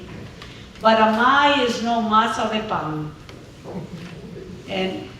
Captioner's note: speaking spanish